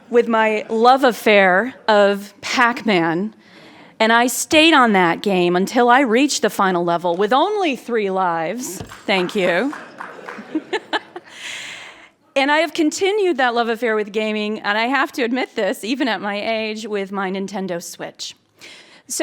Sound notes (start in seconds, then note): 8.8 clapping; 9.6 laughs